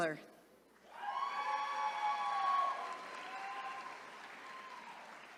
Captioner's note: attendees cheering